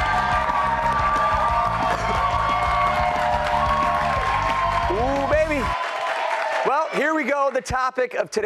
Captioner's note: applause